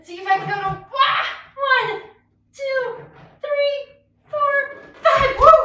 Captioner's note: screams